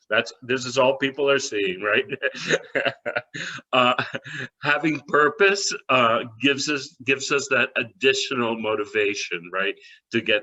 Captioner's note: laughter